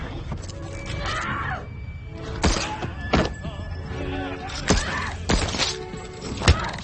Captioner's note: gun shot fires; Lily screams